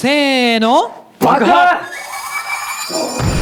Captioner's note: explosion